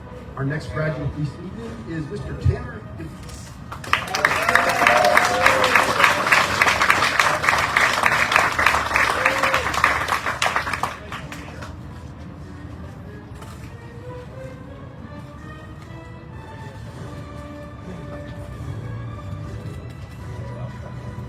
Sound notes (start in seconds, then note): 3.8 audience cheering, applauding